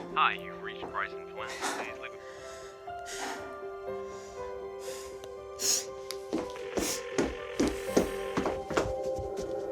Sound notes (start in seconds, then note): 6.8 phone ringing